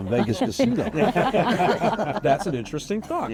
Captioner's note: all laughing